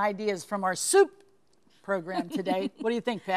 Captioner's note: laughs